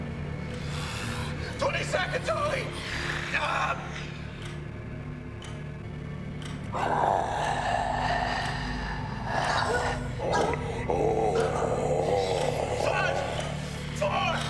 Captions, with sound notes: 20 seconds, Holly! (clock ticking) (mummy growling) Five, four, three,